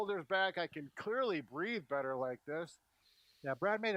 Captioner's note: breathes